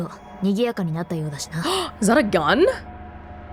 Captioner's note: gasps